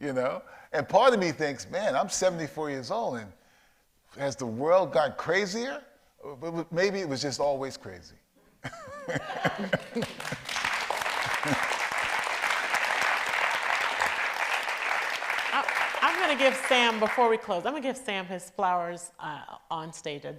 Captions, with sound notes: And part of me thinks, man, I'm 74 years old, and has the world got crazier? Maybe it was just always crazy. (audience laughs) (audience applauds) - I'm gonna give Sam, before we close, I'm gonna give Sam his flowers on stage.